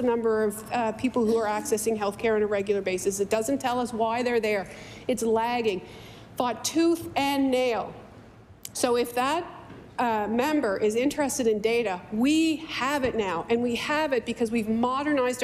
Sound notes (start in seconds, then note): none